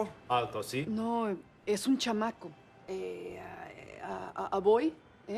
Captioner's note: speaking foreign language